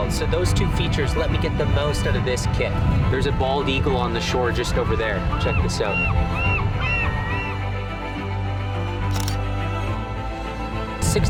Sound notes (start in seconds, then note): 5.2 birds calling; 7.5 lively music; 9.0 camera shutter clicking